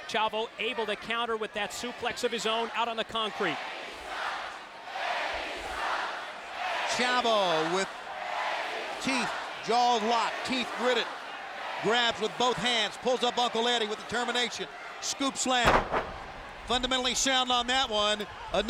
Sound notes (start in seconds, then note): 3.8 audience chanting